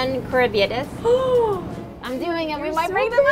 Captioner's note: gasps